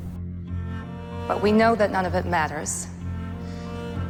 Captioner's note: voiceover